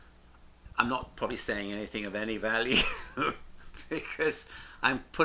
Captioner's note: laughs